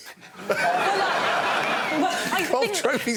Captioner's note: laughter